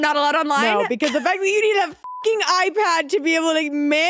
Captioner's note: beep